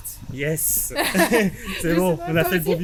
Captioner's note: laughts